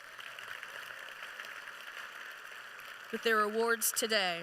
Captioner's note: applause